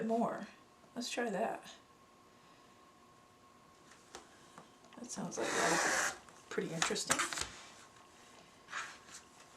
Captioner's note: sound of cutting